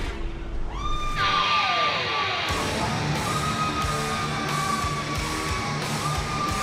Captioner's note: crowd cheering